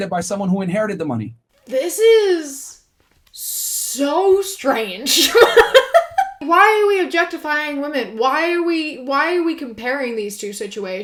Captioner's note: laughs